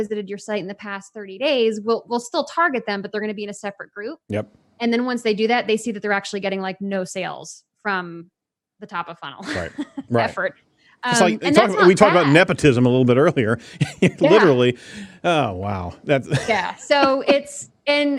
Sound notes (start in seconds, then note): 16.0 laughs